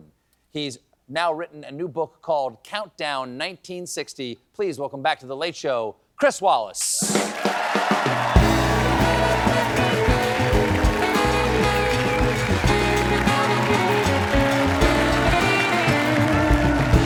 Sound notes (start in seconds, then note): 7.1 cheers and applause